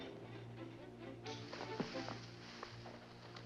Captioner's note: bushes rustle